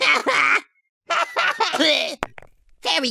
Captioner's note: cough